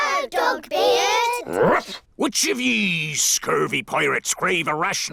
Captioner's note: barks